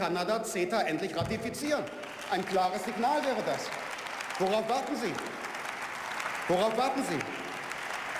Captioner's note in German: Beifall; Beifall